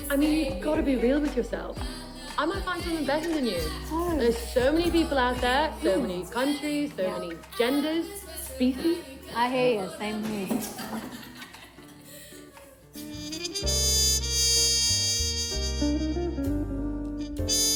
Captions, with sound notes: I mean, you gotta be real with yourself. I might find someone better than you. - Oh. - There's so many people out there. - Really? - So many countries, so many genders, species. - I hear ya, same here. (singers laughing) (slow jazz music)